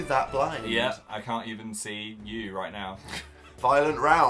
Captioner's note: snickers